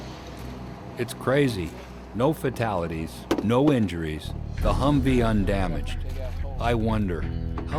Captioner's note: voiceover